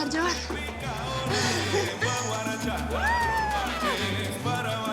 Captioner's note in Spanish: Exclamación